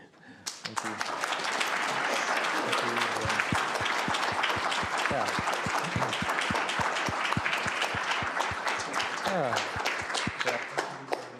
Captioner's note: applause